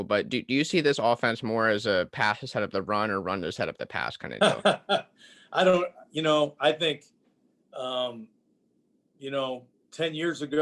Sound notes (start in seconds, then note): 4.4 laughing